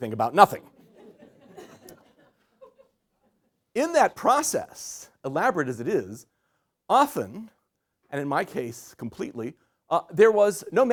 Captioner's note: laugher